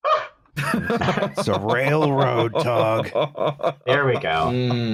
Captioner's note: laughter